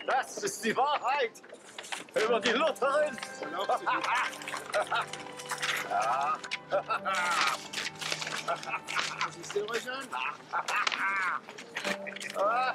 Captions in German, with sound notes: Das ist die Wahrheit über die Lutherin! (Lachen)